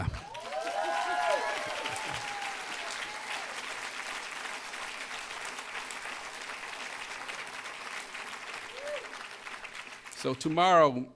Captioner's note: applause